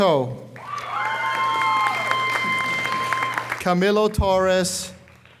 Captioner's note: audience cheers and applauds